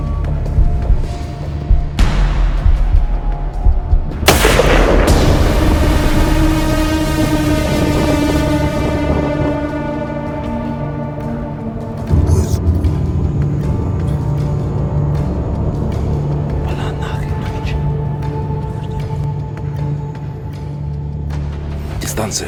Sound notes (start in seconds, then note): 4.2 shot